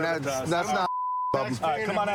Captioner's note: chatter